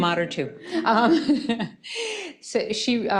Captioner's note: laughing